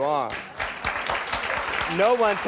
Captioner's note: audience applauding